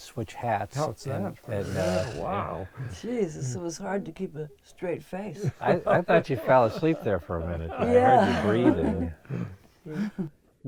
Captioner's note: laughs